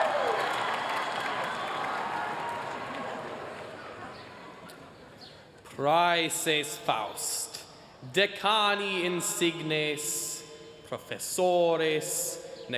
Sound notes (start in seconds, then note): 5.8 speaking latin